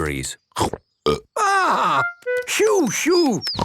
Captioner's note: burps